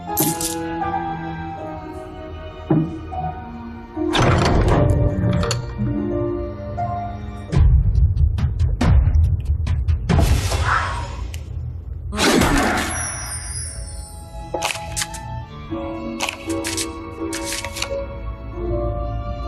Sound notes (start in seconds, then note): 0.1 coins clinking; 0.7 dramatic foreboding music; 4.3 door latch clicking; 9.7 dramatic foreboding music continues; 17.2 cards shuffling